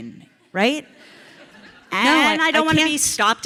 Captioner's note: audience laughs